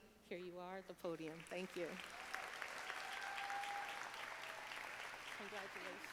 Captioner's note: audience applauding